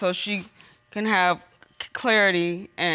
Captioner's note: none